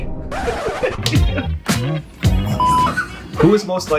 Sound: both laughing

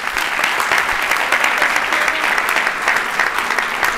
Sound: applause

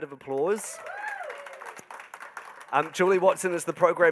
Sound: audience applauding

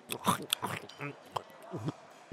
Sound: swallows

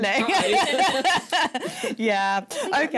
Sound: laughing

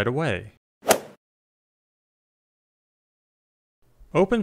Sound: golf swing sound effect

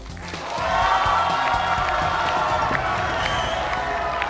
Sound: hands clapping

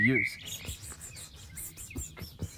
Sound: whispering

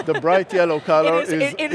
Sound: chuckles

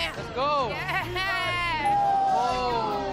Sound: cheering

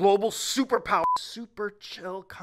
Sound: beep

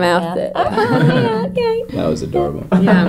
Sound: laughing

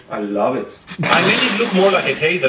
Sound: spit

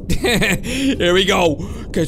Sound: chuckles

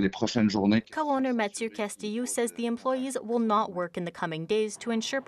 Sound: speaking French

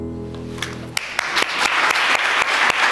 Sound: applause

